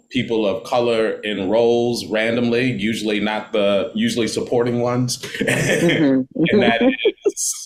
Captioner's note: chuckling